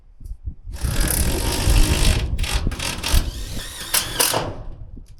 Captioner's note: drills drilling